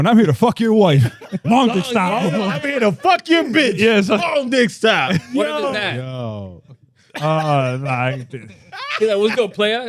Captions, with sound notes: I'm here to fuck your wife. Mom's a style. I'm here to fuck your bitch. Yes. Mom's a style. What is that? Yo, yo. (Laughing) He's like, what's your plan?